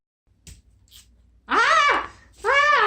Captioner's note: spraying perfume